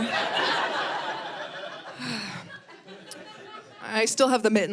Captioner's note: audience laughing